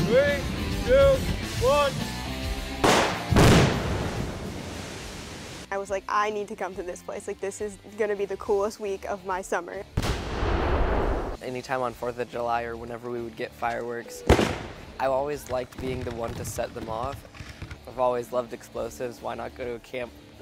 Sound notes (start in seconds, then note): 10.0 explosion